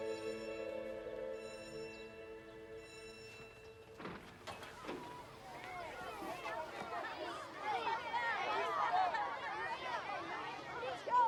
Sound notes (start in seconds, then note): 0.2 bell ringing; 4.4 doors opening, children chattering indistinctly